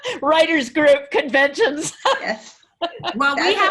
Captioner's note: laughs; laughs; woman laughs